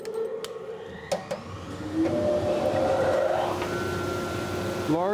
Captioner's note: bandsaw whirring